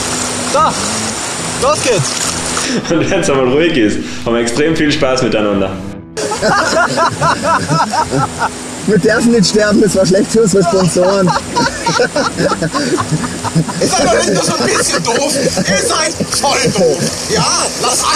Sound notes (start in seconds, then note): 2.3 laughs; 6.2 laughter